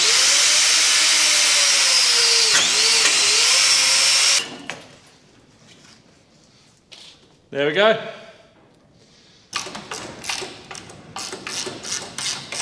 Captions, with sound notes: (drill whirring) There we go.